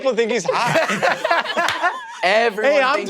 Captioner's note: everyone laughing